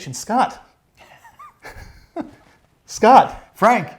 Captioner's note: laughing